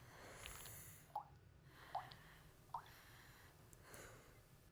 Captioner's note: liquid dripping